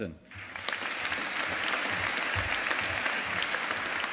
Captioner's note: audience applauding